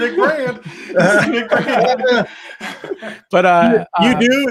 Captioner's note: both laughing